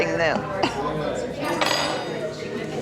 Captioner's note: dining utensil clanking; customers chattering